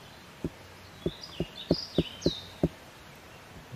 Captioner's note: tap tap tap